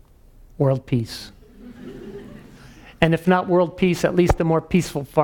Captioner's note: laugh